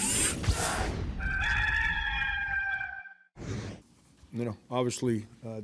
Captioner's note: rooster crowing